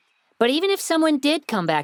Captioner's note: none